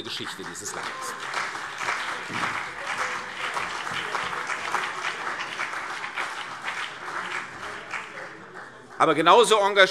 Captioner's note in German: Beifall CDU und BÜNDNIS 90/DIE GRÜNEN